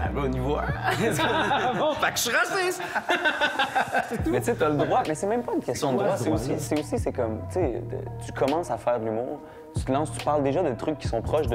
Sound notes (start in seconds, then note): 0.8 laughs